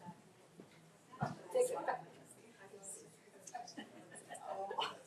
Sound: people chattering

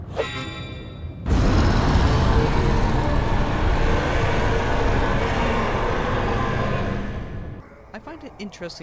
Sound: Demon Dragon: Roaring intensities increase

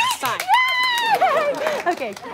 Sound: excited squealing

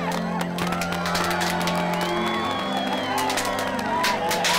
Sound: streamers popping

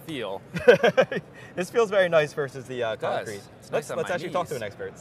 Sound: laughs

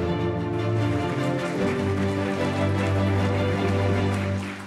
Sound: orchestral music; audience applauding

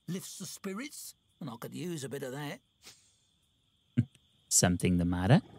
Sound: laughs

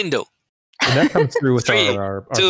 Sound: laughter

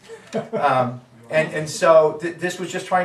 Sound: audience laughing

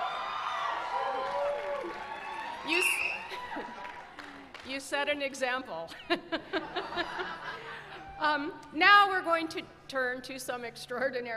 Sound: cheering

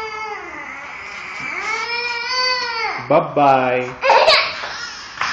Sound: fake crying

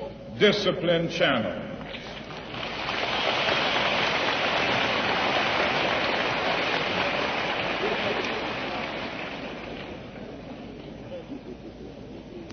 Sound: applause

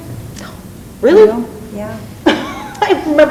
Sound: laughs

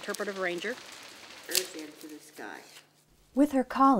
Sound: indistinct chatter

